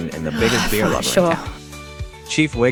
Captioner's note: sighs